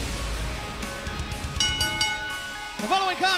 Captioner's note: bell ringing